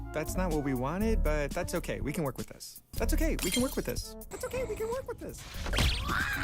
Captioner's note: Deckard high pitched yelling